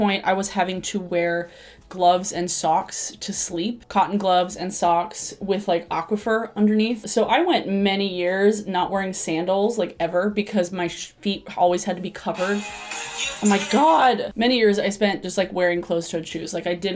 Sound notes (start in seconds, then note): 12.3 phone ringing